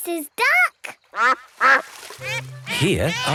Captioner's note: quacks